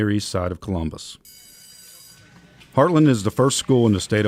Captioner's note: bell ringing